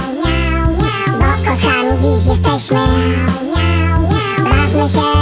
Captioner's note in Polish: miau, miau, miau